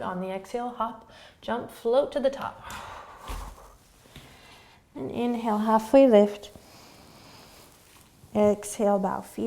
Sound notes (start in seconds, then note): 6.4 inhaling